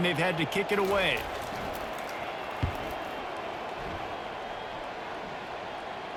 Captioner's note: cheering